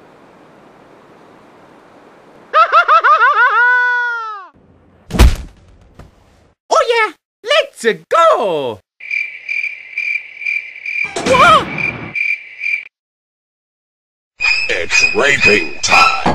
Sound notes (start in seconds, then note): 3.4 mario screaming; 5.1 thud; 9.0 cricket; 11.0 door closing